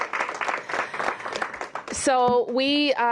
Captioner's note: applause